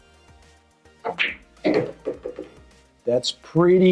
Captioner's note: ball smacks and rattles